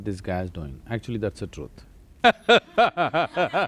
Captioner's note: laughter